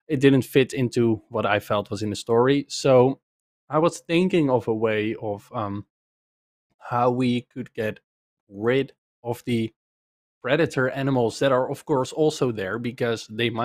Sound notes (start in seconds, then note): none